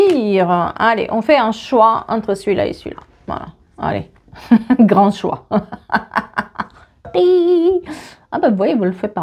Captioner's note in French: rires